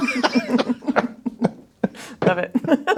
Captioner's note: laughing